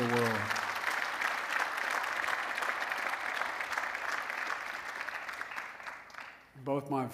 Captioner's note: applause